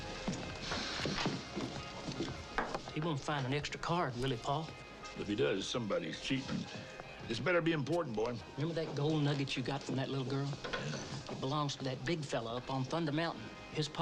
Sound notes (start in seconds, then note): none